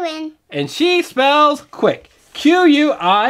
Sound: voiceover

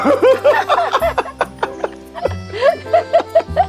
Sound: both laughing

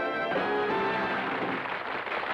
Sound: audience applauds; cymbals crash

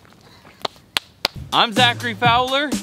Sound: crackling flames; hands slapping

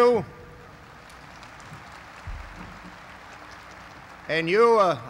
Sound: applause

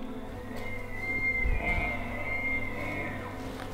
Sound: elk Bugling

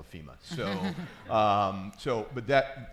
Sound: crowd laughing

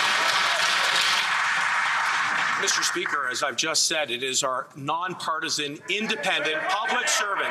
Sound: some Applause

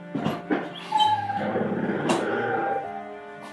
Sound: door open

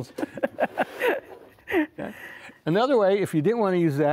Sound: both laughing

